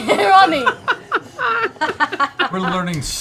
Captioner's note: laughter